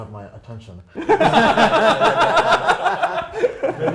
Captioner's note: laughter